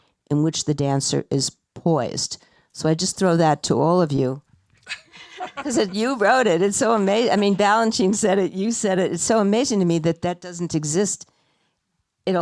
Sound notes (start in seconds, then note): 4.8 laughing